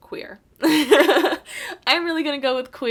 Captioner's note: laughs